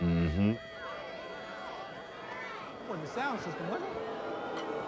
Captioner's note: buzzing mic